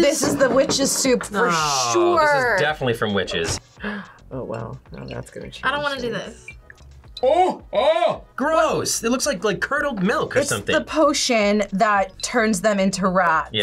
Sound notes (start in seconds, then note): 3.8 gasps